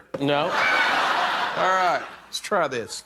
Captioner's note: laughter